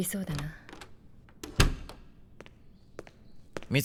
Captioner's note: door opens and shuts; footsteps